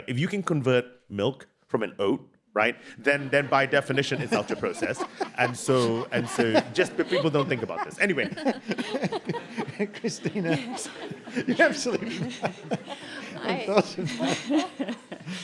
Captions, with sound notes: If you can convert milk from an oat right then by definition it's ultra-processed. Just people don't think about this. Anyway. (panellists chuckle) - Christina?